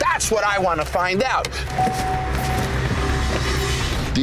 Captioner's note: car beeping